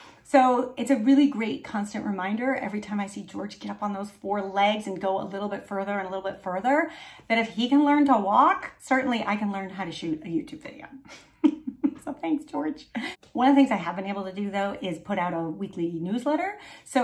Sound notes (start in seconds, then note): 11.1 chuckling